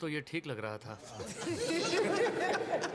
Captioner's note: laughter